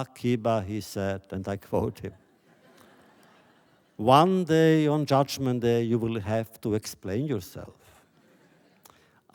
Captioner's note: laughter